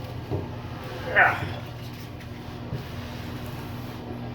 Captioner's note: groans